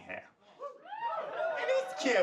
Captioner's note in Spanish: público ovacionando